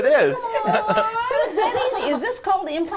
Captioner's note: laughs